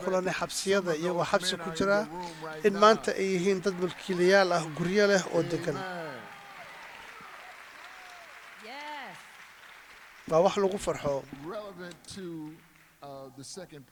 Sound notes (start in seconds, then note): 9.0 cheers and applause